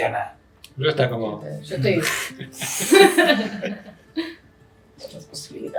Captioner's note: mind blown sounds